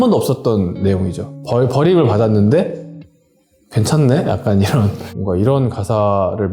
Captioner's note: laugh